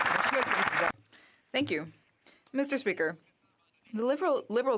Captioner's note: some Applause